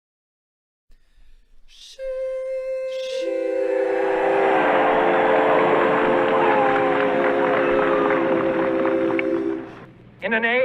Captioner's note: applause